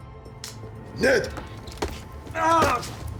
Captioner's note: groans